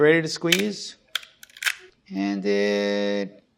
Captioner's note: mechanical clacking